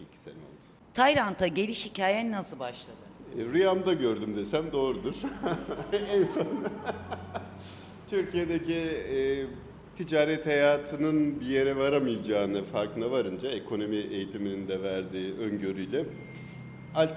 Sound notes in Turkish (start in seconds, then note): 5.1 kahkaha